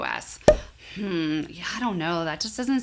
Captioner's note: bubble popping; hums